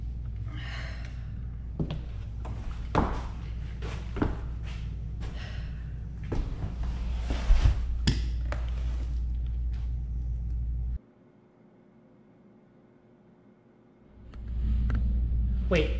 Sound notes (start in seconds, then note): 0.0 tired sigh